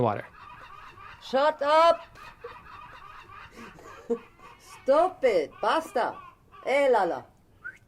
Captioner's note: gulls squawking